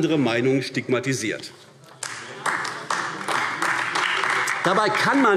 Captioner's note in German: Beifall AfD